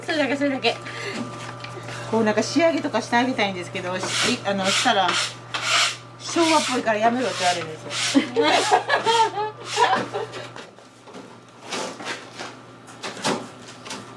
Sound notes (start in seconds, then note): 8.1 laughs